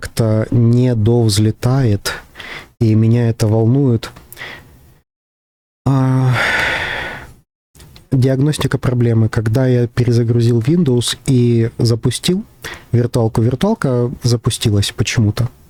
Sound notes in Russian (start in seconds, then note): 5.9 вздыхает; 5.9 тяжело вздыхает